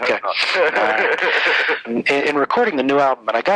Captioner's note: laughs